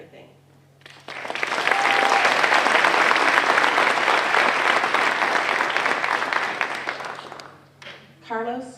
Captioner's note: applause